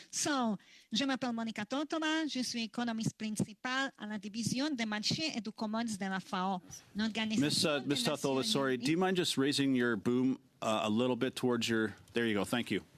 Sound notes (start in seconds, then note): 5.5 speaking French